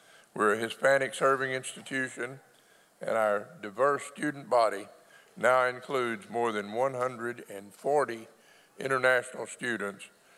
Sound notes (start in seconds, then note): none